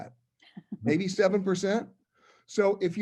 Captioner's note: laugh